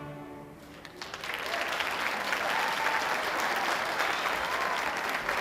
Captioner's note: audience applauding